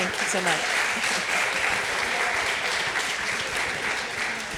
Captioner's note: applause